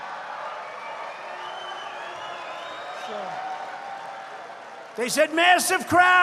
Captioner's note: laughter and applause